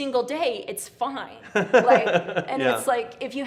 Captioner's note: laughs